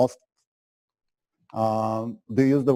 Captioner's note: pause